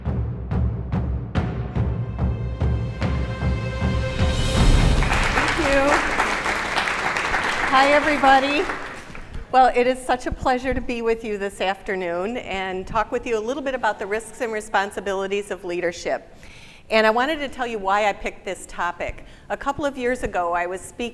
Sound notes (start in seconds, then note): 0.0 beating drum; 4.6 applause